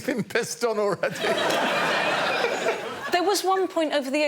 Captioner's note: laughter